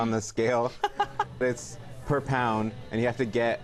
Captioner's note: laughs